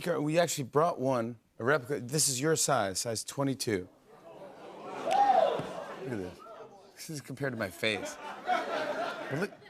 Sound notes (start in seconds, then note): 4.2 audience exclaims; 7.8 laughter